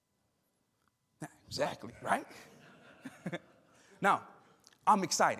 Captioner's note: chuckles